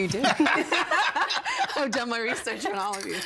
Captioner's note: all laughing